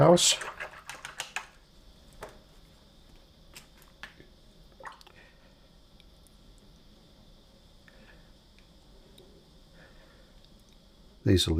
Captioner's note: silence